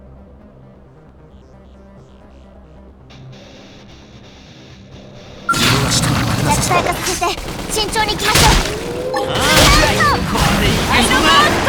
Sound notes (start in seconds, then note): 5.4 battle chatter